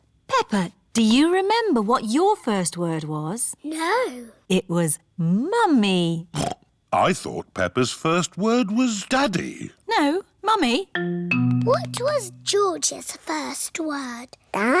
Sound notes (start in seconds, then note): 6.6 snorts